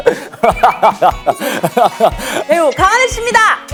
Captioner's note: laughter that brings people joy